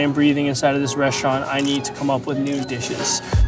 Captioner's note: camera shutter clicking